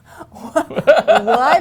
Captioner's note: laughing